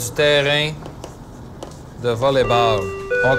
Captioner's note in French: sonnerie de fin de cours